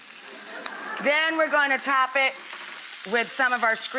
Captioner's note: audience laughs